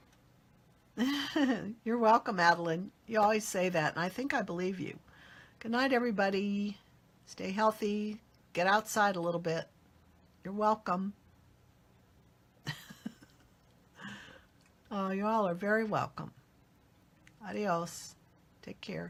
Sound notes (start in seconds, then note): 1.4 laughs; 12.7 laughs